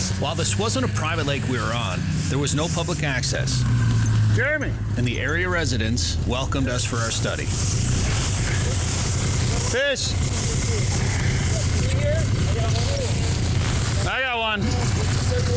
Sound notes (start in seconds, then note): 7.4 snowmobile engine running; 11.3 crew chatting